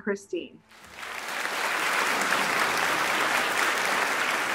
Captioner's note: audience clapping